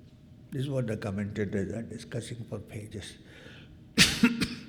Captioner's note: coughs